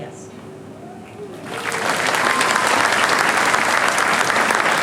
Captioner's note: applause